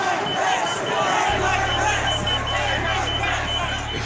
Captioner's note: chanting